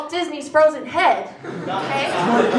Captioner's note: laughter